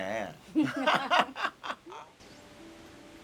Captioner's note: both laughing